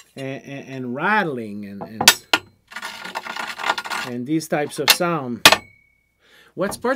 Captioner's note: metal scraping sound; metal rattling